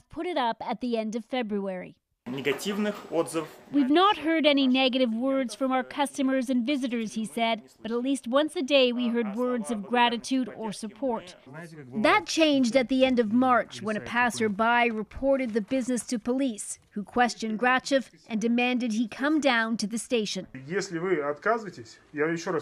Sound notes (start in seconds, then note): 9.7 speaking Foreign Language